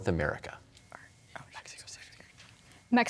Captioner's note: whispers